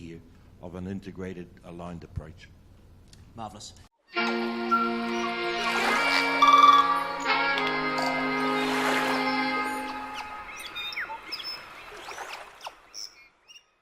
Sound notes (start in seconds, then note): 4.1 electronic music; 10.6 birds singing